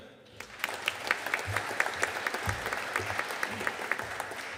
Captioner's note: audience applauding